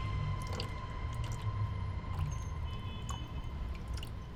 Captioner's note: stool dripping